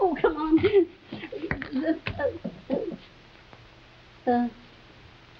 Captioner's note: Veta stammering